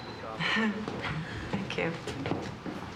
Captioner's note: chuckles